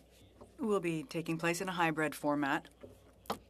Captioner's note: speaking French